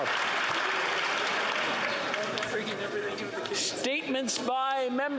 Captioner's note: applause